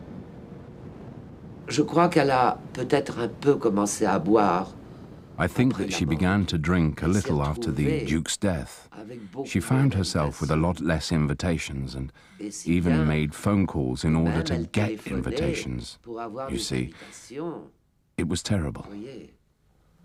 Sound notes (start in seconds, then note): 12.4 speaking foreign language